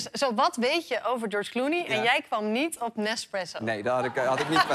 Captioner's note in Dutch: gelach